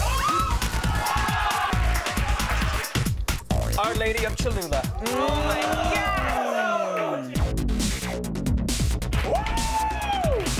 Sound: cheers

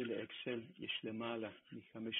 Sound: Hebrew spoken

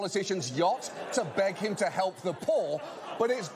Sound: audience laughter

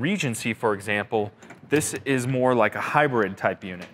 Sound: door softly opening

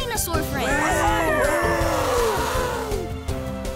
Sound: cheering

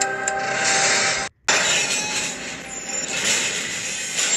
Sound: clanking; sparks screeches

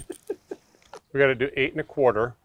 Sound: laughs

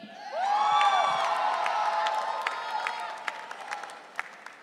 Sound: audience cheering

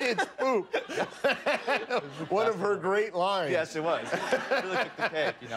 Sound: laughter

